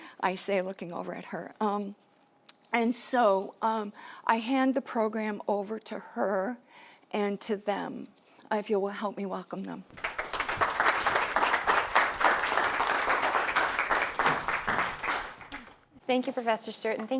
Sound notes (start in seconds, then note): 9.9 applauding